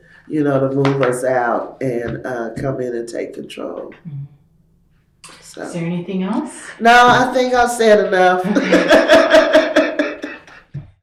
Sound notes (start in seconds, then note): 8.4 laughter